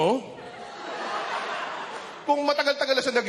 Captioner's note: laughter